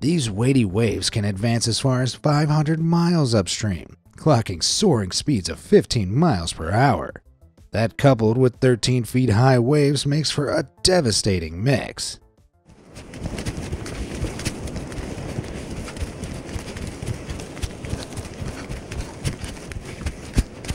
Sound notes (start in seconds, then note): 12.6 running breathless; 12.8 heavy waves of water